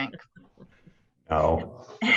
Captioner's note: laughs